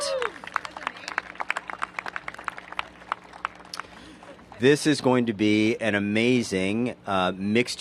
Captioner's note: cheers and applause